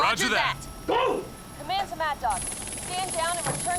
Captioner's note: helicopter whirring